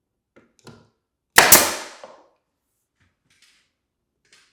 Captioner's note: nail gun popping